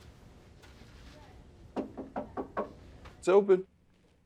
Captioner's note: knocking on door